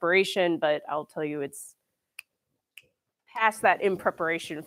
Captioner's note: snaps fingers